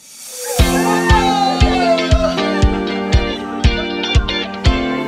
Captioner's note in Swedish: jubel